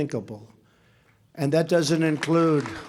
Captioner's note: applause